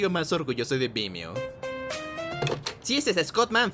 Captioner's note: the phone rings